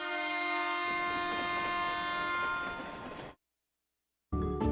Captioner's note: Sifflet de train